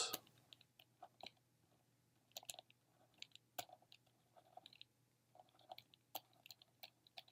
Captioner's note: typing